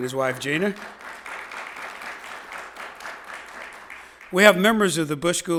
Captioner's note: audience applauding